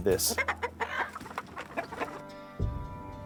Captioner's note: chickens clucking; dramatic music